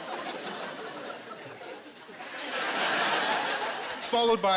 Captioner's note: laughter